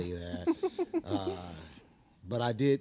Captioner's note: chuckling